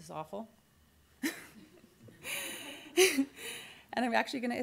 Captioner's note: laughs